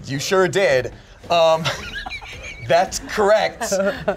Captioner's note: laughs